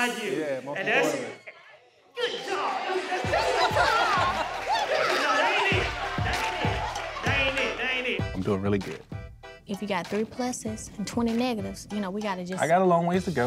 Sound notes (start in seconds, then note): 3.0 laughter